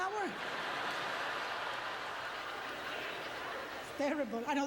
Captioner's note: audience laughter